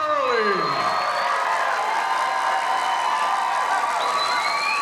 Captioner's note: audience cheering